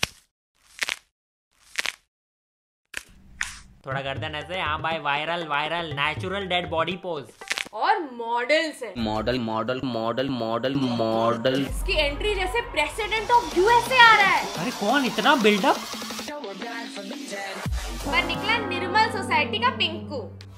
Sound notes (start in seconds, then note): 7.4 neck snap